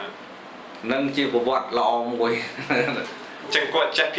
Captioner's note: laughs